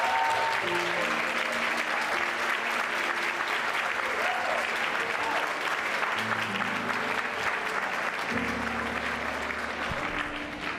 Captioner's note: cheers and applause